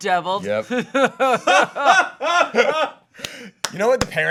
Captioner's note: group imitating laughter